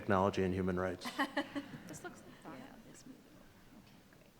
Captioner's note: laughs